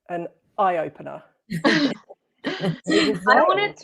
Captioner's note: laughter